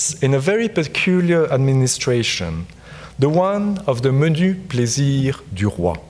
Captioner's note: speaks French